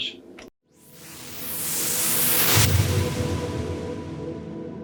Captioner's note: whooshing